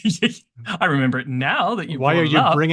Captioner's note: laughs